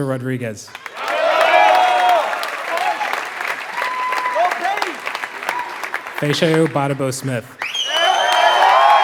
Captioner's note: applause